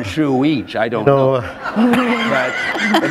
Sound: laughter

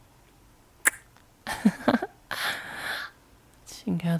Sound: chuckle; kiss

